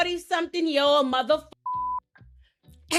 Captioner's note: beep